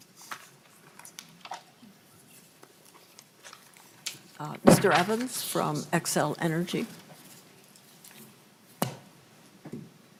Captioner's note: gavel